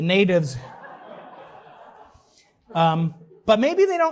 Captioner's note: laughter